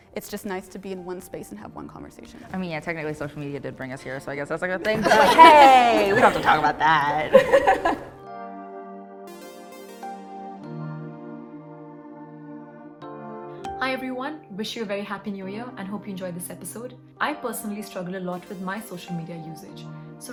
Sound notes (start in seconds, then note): 7.5 members laughing; 9.2 soft upbeat music